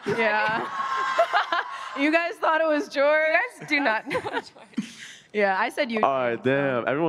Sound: laughter

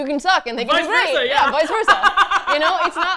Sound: laughs

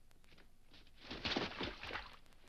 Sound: water splashes

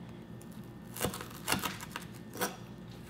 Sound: crunching

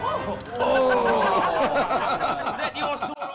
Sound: all laughing

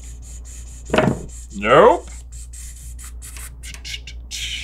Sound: none

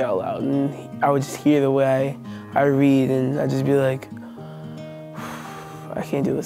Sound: long exhale

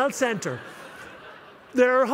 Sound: laughter

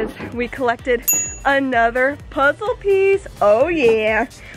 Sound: dings

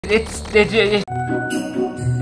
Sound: stuttering; christmas Music

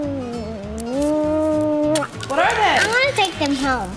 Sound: kiss

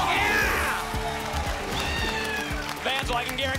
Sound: applause and cheering

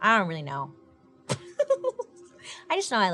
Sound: giggling

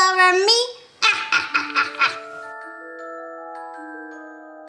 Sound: laughs

